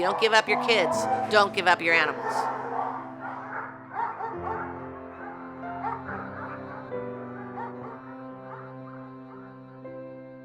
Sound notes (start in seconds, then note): 2.5 dogs bark; 6.1 soft piano music